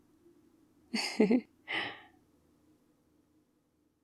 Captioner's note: laughs